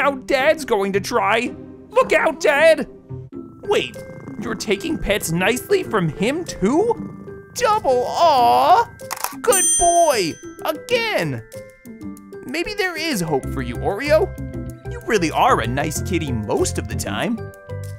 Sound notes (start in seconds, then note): 6.7 purring